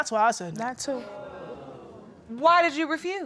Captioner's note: audience exclaims